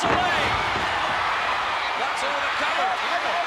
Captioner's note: crowd cheering; body thudding